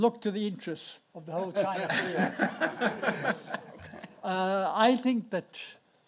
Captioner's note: audience laughs